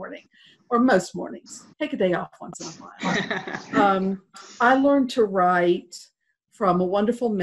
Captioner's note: laughter